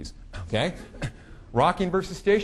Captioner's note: audience laughing